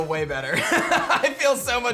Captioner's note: laughs